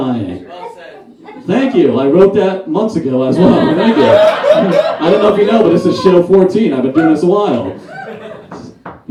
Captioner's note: audience Laughs